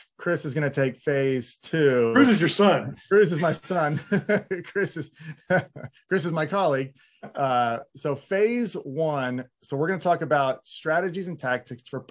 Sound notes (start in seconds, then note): 3.3 laughing